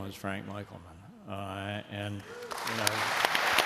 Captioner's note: applause